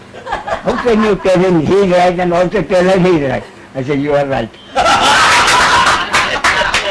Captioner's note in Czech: smích; smích